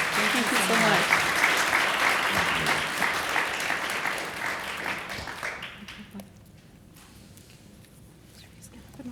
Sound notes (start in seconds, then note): 0.0 applause